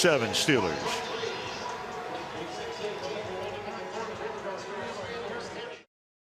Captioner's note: pa announcement